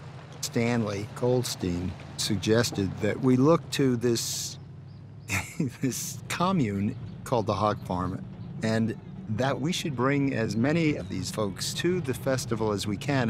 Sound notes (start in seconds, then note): 5.3 laughs